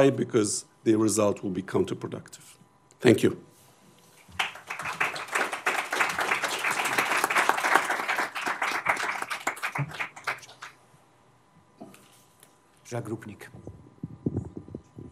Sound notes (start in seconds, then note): 4.3 applause